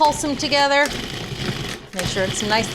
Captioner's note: food processor whirs